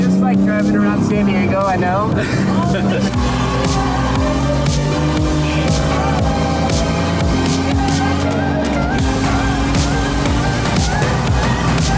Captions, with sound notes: - Just like drivin' around San Diego I know. (engine revving) (upbeat music)